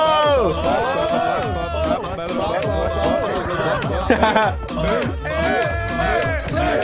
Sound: everyone ohhing

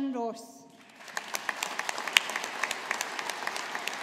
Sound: audience applauding

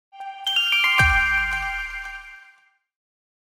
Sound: chimes

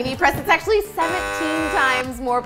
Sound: wrong buzzer interrupts

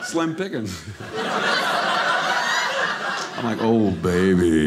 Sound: audience laughing

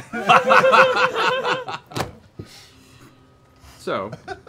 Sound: laughing

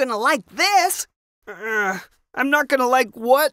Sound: Glaff grunts

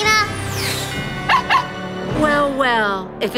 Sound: barking

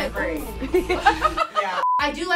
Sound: laughs

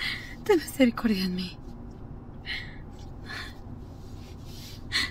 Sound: Janet speaks Spanish

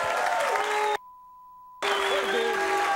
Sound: beep

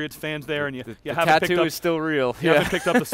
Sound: laughs

